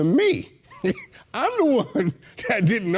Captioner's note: laughing